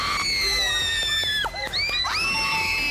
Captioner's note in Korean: 너무 반가운 나머지 환영의 박수